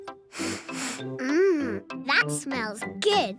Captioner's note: sniffs